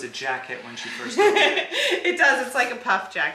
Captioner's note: laughs